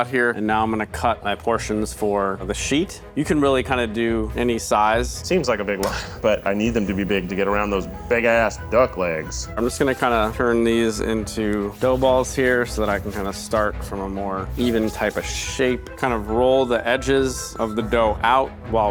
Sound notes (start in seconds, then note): 5.8 laughing; 11.8 lively music continues